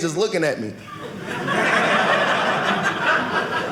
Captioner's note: audience laughing